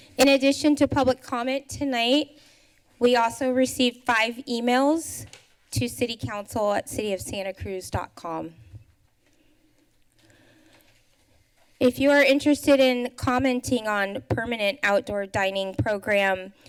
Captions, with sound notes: n addition to public comment tonight, we also received 5 emails to citycouncilcityofsantacruz.com. [pause] If you are interested in commenting on permanent outdoor dining program